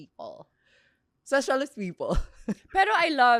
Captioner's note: laughs